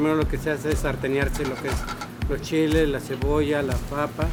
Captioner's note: foreign language